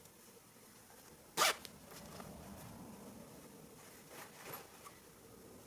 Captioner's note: zipper zipping